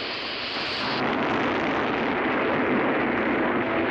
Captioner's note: explosion